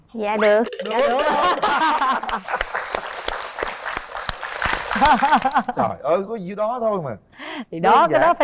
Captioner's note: applause